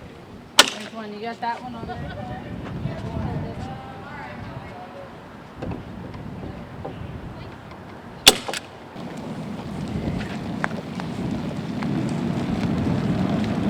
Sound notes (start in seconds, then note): 1.1 stapeling sounds; 4.9 rolling sounds